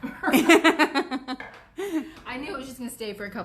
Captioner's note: laughs